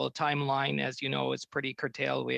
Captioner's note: speaking French